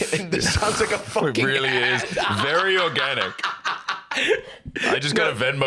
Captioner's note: laughs